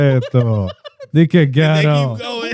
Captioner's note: laughter